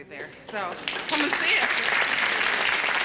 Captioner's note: applause